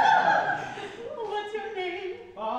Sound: Miss Todd and Laetia laugh

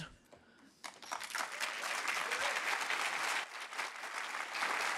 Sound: audience clapping

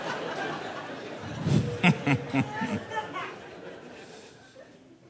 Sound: laughs

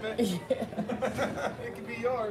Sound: both laugh

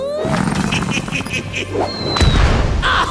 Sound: chuckles; Dr. Boom cackles

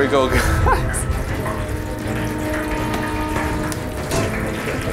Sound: oil sizzling

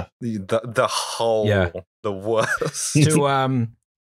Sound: laughter

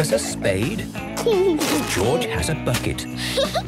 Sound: giggling; Peppa laughing

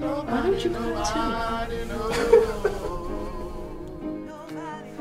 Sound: laughs

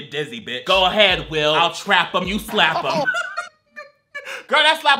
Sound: laughs

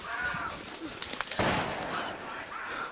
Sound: gunshot

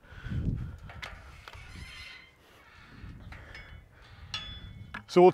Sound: gate squeaking

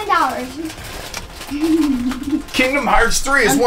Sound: chuckles

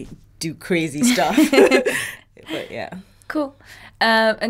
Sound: both laughing

